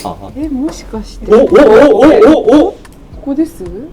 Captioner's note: surprised Japanese sounds